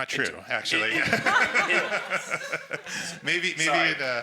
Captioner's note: everyone laughs